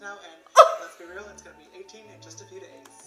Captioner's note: laughs